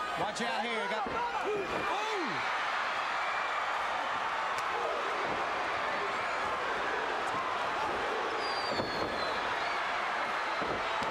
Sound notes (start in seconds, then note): 2.8 crowd chattering